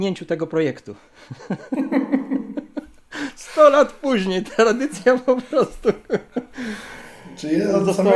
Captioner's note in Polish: śmiech